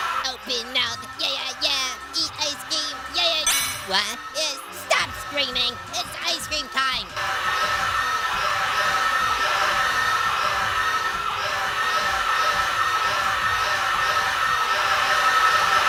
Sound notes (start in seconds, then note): 0.0 screaming; 7.3 screaming